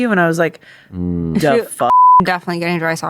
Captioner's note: beep